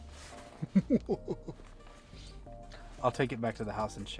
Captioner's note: chuckling